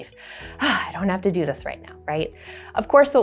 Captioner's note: sighs